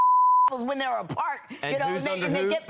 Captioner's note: beep